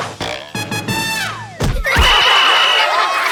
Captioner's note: laughing; whistle blows